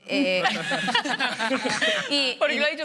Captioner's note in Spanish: algunos ríen